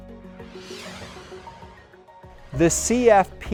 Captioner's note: screen whooshes